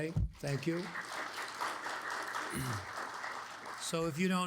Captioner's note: audience applauds